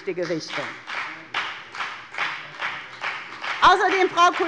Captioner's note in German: Beifall bei der FDP